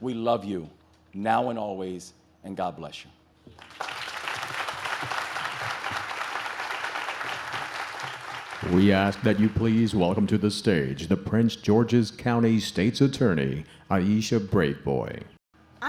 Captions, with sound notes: We love you now and always, and God bless you. (audience claps) - We ask that you please welcome to the stage, the Prince George's County State's Attorney, Aisha Braveboy.